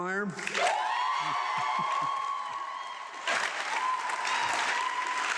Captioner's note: audience clapping